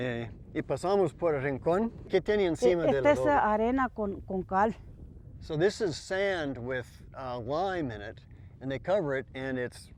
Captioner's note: spanish